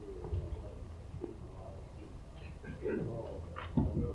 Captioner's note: people chattering